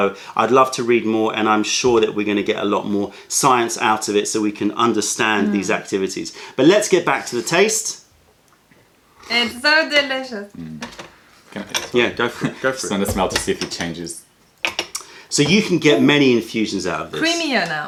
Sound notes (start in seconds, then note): 8.3 sips tea; 11.0 sips tea